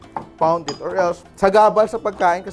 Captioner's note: clang